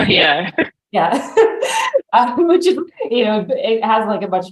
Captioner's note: laughs